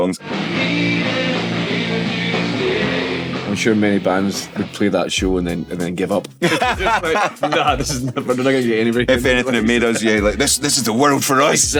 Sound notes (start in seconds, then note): 0.2 rock music playing; 6.4 both laughing